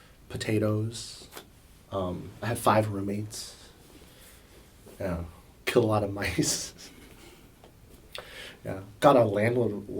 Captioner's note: laughs